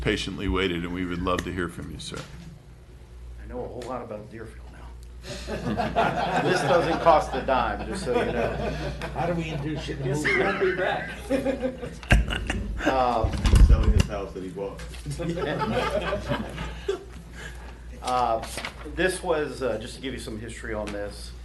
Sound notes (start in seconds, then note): 8.3 laughter